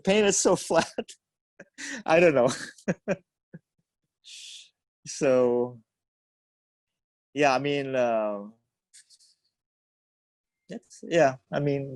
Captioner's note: laughs